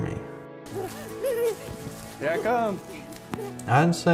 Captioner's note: child laughing